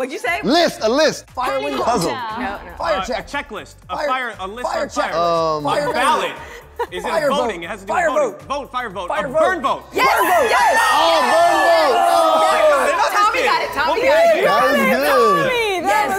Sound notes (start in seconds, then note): 5.7 laughs; 12.4 challengers cheer